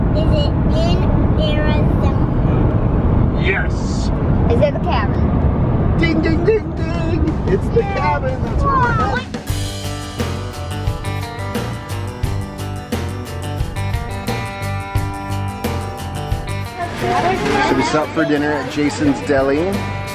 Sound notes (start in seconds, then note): 9.4 upbeat country music; 16.6 family chattering